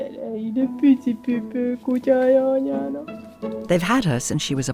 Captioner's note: speaking foreign language